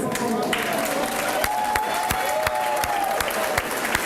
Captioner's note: applause